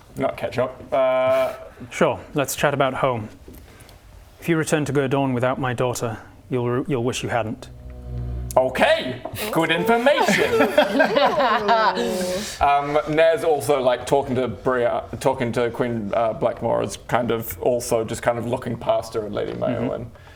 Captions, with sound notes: Not catch up. Sure, let's chat about home. If you return to Gerdawn without my daughter, you'll wish you hadn't. Okay! Good information! *safe in her hiding spot laughter* Naz also, like talking to Brya- talking to Queen Blackmore is kind of also just kind of looking past her at Lady Mayawen